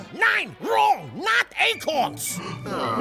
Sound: sound Effects: animals gasp

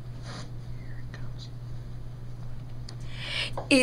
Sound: whispers

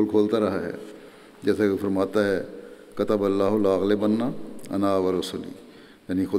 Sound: Arabic

